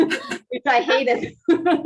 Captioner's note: overlapping chatter; laughing